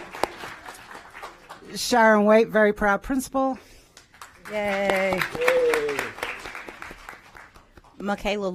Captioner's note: applause